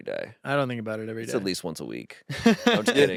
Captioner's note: laughs